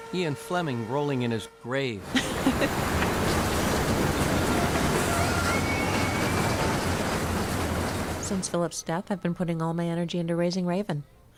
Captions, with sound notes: Ian Fleming rolling in his grave. (Louise chuckles) (people yelling) - Since Phillip's death, I've been putting all my energy into raising Raven.